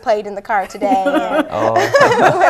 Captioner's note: laughter